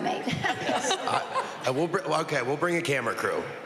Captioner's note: chuckles